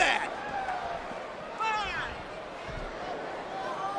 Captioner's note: crowd shout